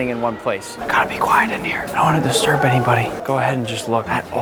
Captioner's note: whispers